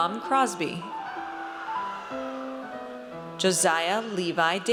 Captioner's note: audience cheers